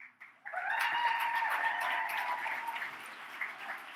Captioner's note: audience cheers